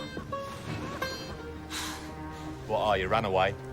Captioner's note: sighs